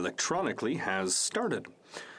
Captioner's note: speaking French